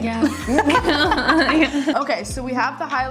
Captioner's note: both laughing